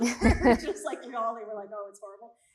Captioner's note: both laughing